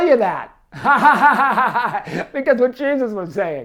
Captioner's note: laughs